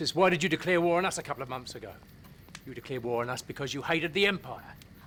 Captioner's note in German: none